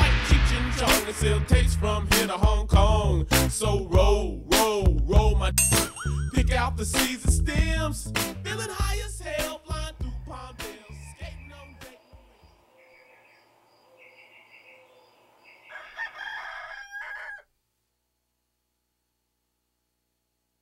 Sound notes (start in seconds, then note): 5.6 twangs; 11.7 birds chirping; 15.4 rooster crows